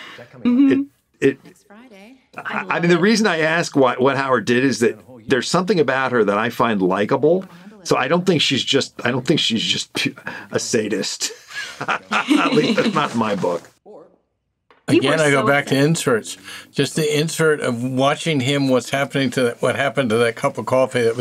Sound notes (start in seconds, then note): 11.2 laughs; 11.6 scoffs